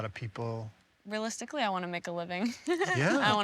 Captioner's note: laughs